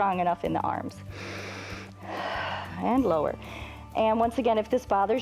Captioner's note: inhales and exhales